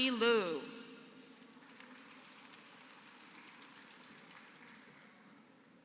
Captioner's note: applause